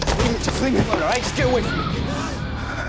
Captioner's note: crash; angry murmurs